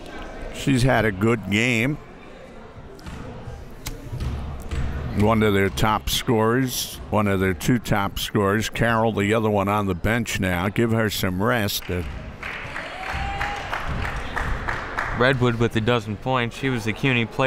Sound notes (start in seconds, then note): 4.1 ball pounding; 12.4 clapping